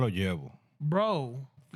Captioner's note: speaking Spanish